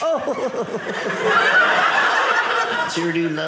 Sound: audience laughing

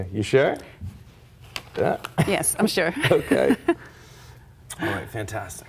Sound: laughter

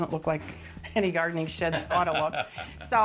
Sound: laughs

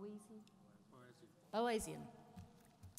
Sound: voiceover

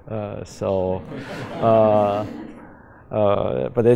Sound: laughter

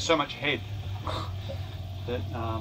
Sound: laughs

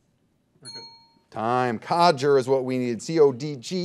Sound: bell dings

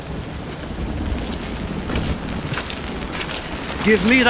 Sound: sloshing footsteps

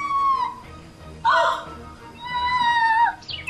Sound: gasps

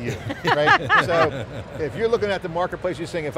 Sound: laugh

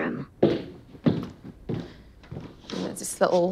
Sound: footsteps plodding

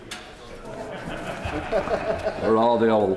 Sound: laughter

